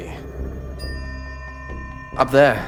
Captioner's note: bell echoes